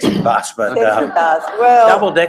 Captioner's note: laugh